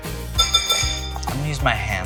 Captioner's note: upbeat music; spoon clatters